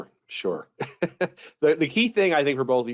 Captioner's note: laughing